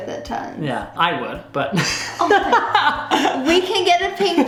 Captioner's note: laughs